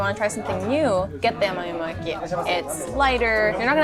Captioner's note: speaking foreign language